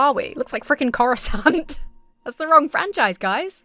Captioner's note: laughs